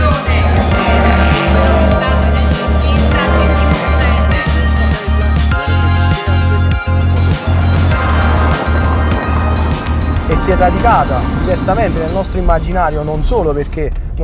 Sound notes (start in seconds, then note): 2.3 very loud rumble; 8.3 sound of dirt road